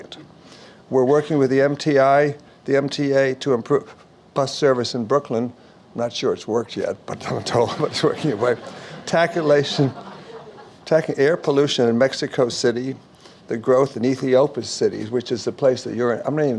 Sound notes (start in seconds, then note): 7.7 audience Laughs; 7.8 laughs